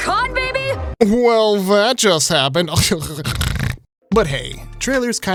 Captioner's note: laughing and snorting